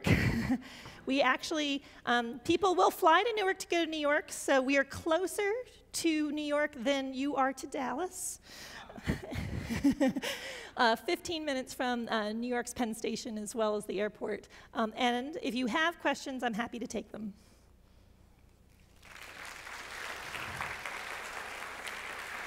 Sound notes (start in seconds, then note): 18.8 audience applauds